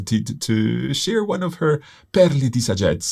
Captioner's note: speaks in foreign language